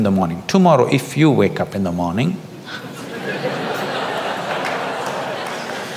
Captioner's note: audience laughs